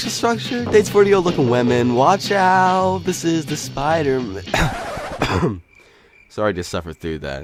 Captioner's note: coughs